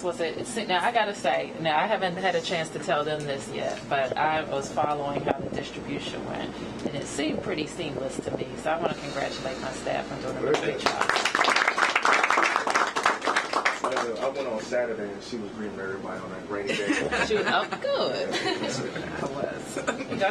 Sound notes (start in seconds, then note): 14.4 applause